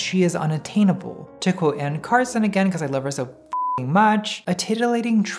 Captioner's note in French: bip